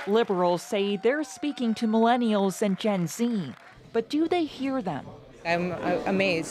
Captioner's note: applause